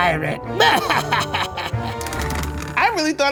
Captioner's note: laughing